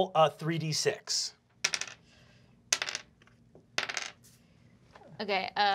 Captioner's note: three dice clacking